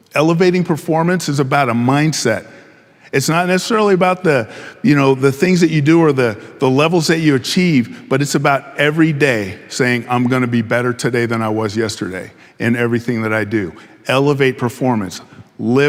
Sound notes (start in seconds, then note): none